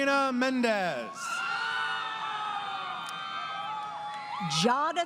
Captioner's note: crowd Cheering